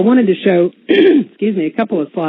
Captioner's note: clearing throat